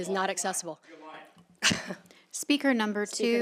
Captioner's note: chuckles